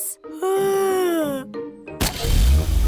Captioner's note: yawns